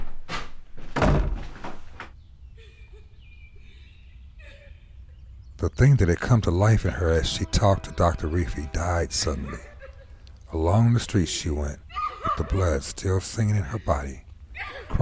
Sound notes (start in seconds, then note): 0.8 door slams; 2.5 Elizabeth crying